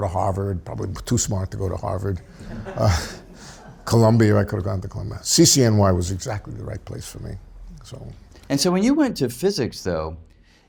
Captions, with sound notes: to Harvard, probably too smart to go to Harvard. (audience laughs) Columbia, I could have gone to Columbia. CCNY was exactly the right place for me, so. - And so when you went to physics, though,